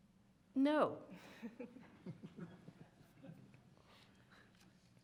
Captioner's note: audience laughing